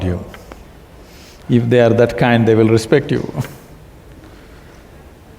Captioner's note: laughs